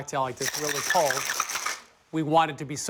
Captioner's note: ice rattling